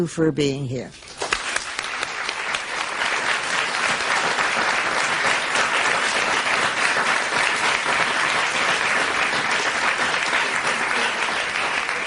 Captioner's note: applause